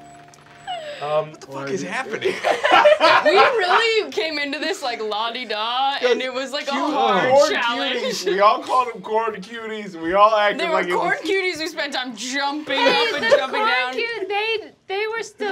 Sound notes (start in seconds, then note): 0.0 sorrowful music; 2.0 laughing